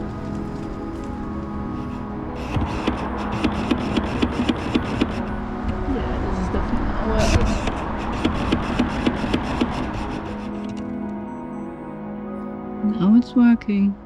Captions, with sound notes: [loud autofocus motor hunting] Yeah, this is definitely not working. [More loud motor noises] Now it's working.